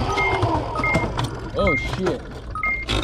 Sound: beeping

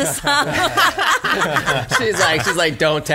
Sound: laughs

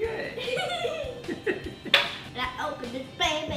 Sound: giggles

